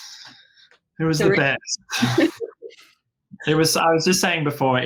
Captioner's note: laughing